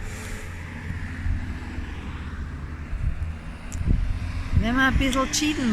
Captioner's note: traffic